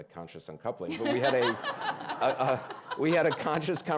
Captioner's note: audience laughing